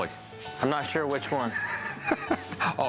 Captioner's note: laughs